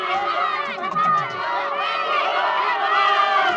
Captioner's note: crowd cheering